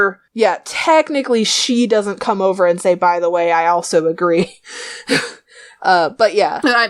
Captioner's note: laughs